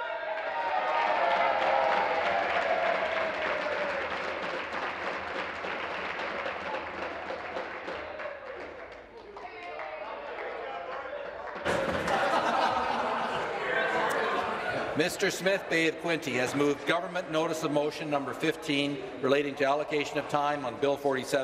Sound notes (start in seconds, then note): 3.7 applause